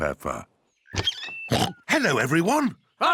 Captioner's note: oinks